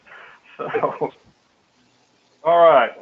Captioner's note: laugh